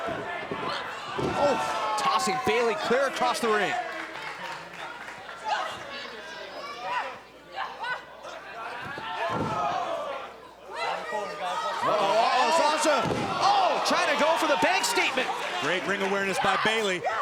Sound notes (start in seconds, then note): 5.8 crowd chatter